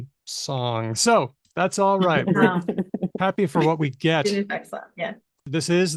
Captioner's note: laughter